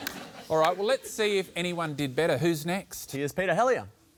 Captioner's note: continues laughing